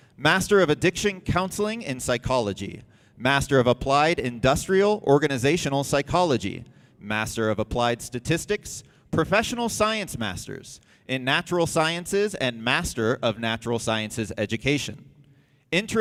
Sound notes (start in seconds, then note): none